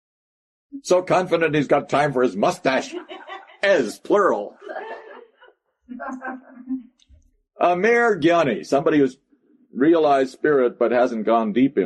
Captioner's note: laughter